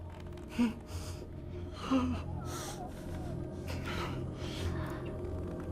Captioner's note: Father Matthews breathes heavily